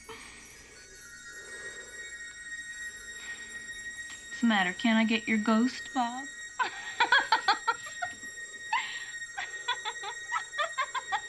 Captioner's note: laughing